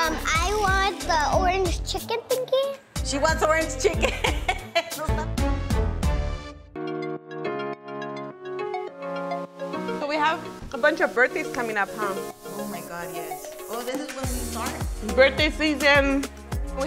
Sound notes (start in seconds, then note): 3.9 laughs; 4.7 upbeat music; 6.7 relaxing music